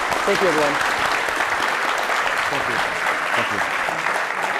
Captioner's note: audience applauding